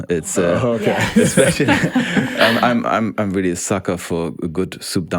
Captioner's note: group laughs